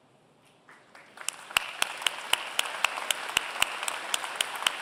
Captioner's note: applause